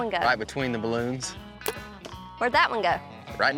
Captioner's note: arrow shot